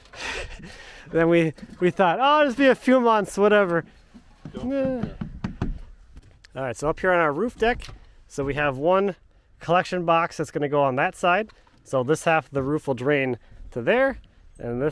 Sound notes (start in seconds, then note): 0.2 chuckling; 5.2 whines